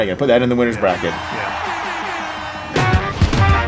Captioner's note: air horn blaring; upbeat music